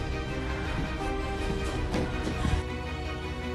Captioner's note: breathing fearfully